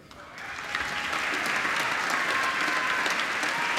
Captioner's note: applause